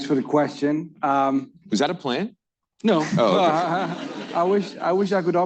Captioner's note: laughter